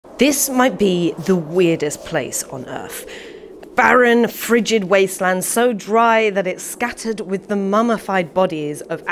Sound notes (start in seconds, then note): 0.0 wind howling